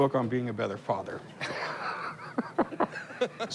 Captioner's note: laughter